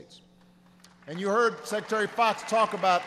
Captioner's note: applause